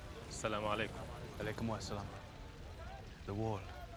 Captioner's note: both speaking in arabic